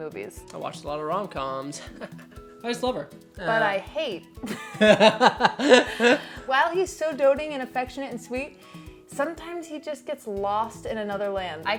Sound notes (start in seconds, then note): 4.4 both laughing